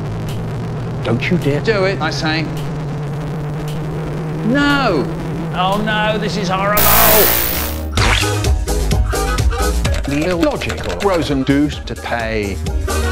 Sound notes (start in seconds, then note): 6.8 screech